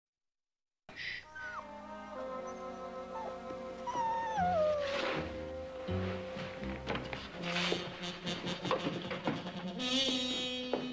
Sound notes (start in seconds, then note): 1.6 whimpering